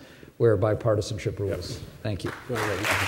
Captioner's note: applause